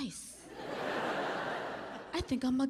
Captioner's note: audience laughing